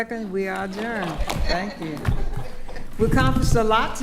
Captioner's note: attendees laughing